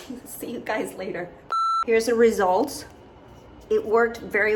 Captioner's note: beeping